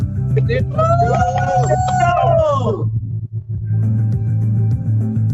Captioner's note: cheering